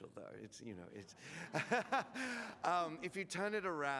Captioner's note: laughs